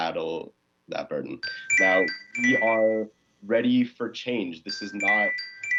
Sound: chime

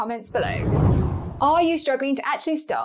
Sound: air whooshes

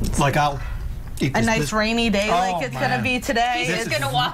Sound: laughter

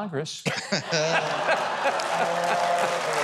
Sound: laugh; audience applauding

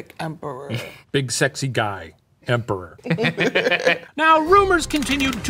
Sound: both giggle

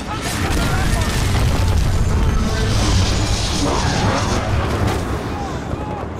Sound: shouting; shouting

